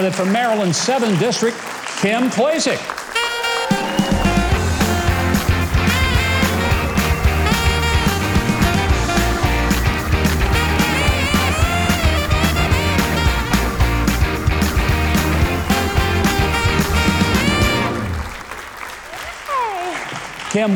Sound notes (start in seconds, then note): 3.5 applause; 3.5 jazz music